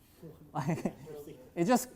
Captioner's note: laughs